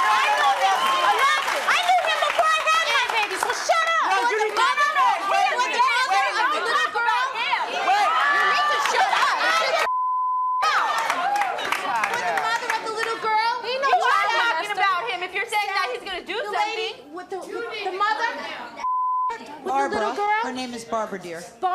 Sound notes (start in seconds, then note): 1.3 cheering; 9.8 beep